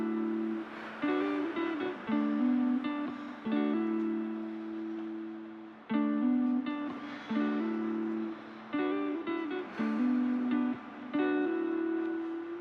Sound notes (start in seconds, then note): 0.4 slow guitar music continues; 1.2 Fern exhales; 4.7 slow guitar music continues; 9.7 Fern exhales